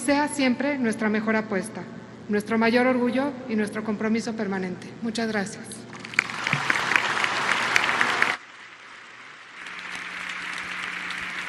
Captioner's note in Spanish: aplausos